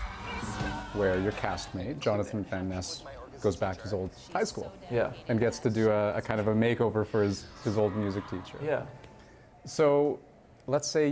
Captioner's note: cheers and Applause